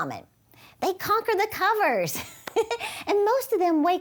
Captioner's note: chuckles